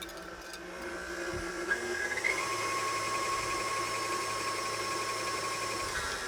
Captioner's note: stand mixer whirring intensifies